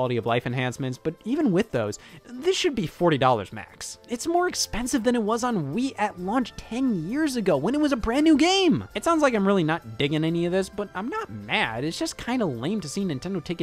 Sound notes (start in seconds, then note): none